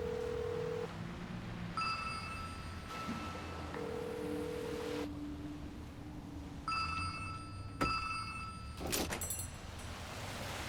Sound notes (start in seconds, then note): 0.0 phone ringing